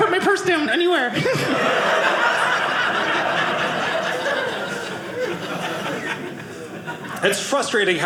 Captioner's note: audience laughing